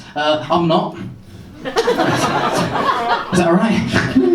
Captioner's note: laughter